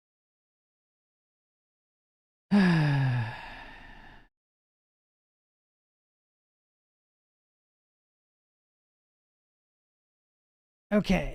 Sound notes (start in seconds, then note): 2.5 sighs